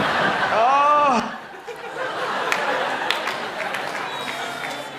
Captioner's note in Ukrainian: Сміх